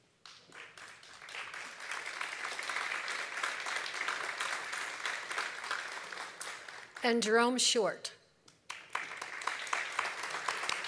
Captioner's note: applause